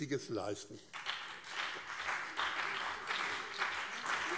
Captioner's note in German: Beifall BÜNDNIS 90/DIE GRÜNEN und CDU